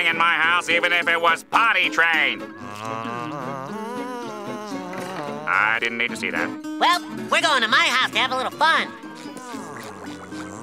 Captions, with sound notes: even if it was potty-trained! [humming and buzzing] I didn't need to see that. Well, we're going to my house to have a little fun.